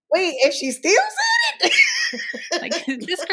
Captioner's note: laughing